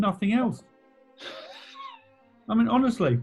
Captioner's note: sniggering